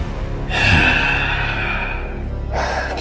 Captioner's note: sighs